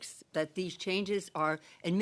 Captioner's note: speaking French